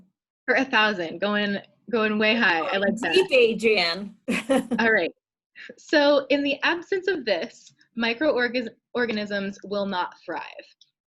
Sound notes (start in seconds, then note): 4.2 laughs